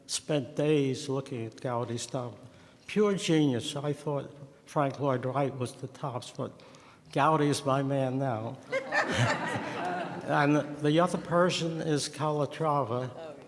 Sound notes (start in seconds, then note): 8.7 audience laughs